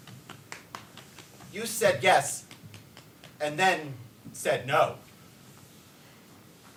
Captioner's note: dancer pats